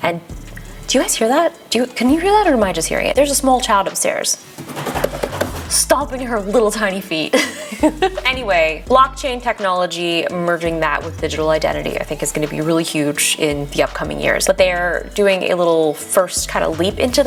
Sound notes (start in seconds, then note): 4.6 table pounds; 7.3 giggles